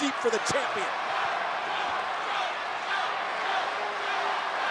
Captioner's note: crowd chants "Joe"